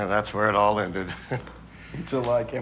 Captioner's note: laughs